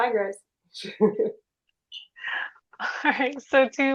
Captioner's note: chuckles